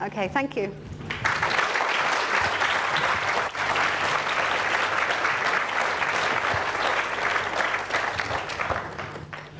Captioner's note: applause